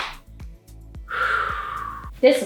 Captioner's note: sighhhh